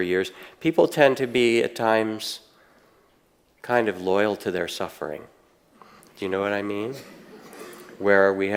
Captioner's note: audience laughing